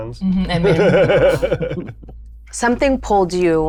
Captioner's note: laughs